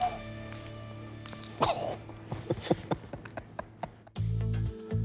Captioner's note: laughter